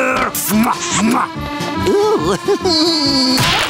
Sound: laughing

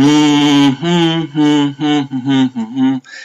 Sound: humming sound

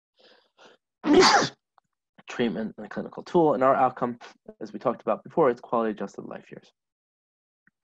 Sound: sneezes

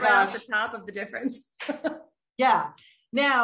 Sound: laughs

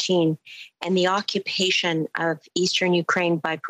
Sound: speaking French

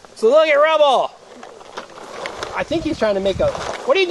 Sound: voiceover

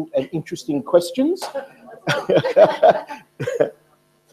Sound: laughter

